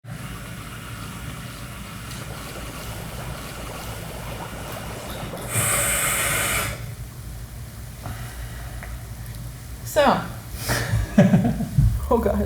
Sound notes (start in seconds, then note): 0.0 water running; 2.1 water bubbling; 5.4 grinding; 8.1 sigh; 10.8 man giggles; 12.3 laughing